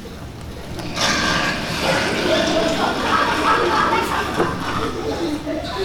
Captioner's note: loud snoring